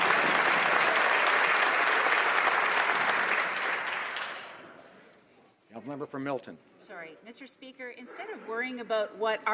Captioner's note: some Applause